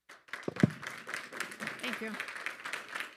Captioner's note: attendees applauding